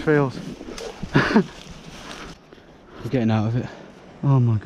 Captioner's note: chuckles